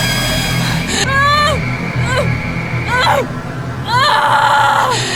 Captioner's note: Sally grunting